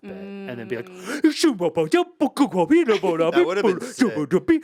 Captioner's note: Ian hums